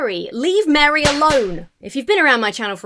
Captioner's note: hand smacks